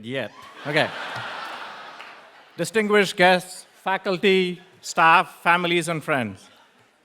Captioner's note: laugh